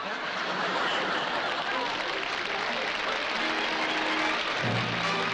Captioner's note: applause